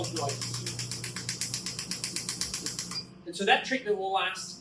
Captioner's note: machine thumping